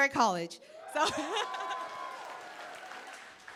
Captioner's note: cheering, applause